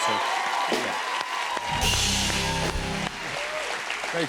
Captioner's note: cheers and applause